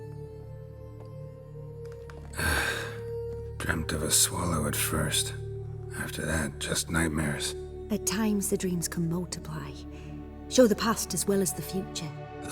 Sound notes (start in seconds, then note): 2.3 heavy sigh